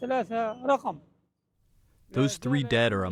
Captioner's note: through translator